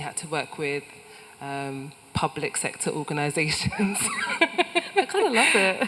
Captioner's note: laughs